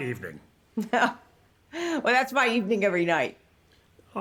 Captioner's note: laughs